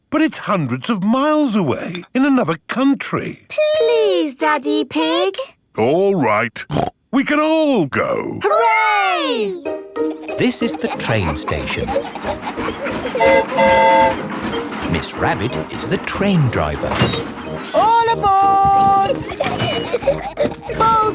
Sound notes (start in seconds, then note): 13.1 train whistle toots; 18.7 giggling